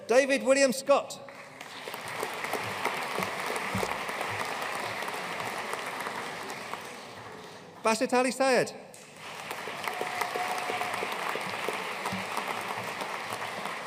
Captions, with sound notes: David William Scott. (AUDIENCE APPLAUDING) Basit Ali Syed. (AUDIENCE CHEERING AND APPLAUDING)